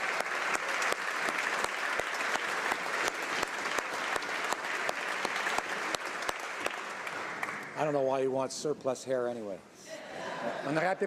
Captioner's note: applause